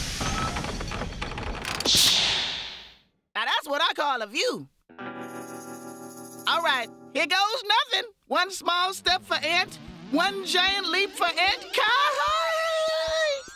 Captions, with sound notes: (doors whoosh) NOW, THAT'S WHAT I CALL A VIEW. ALL RIGHT, HERE GOES NOTHIN'! ONE SMALL STEP FOR ANT, ONE GIANT LEAP FOR ANT-KI-I-I-ND!